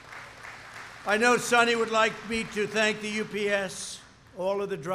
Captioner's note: applause